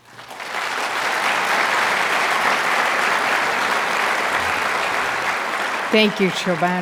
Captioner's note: audience applauding